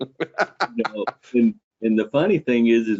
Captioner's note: laughing